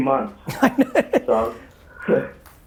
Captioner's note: laughs; chuckles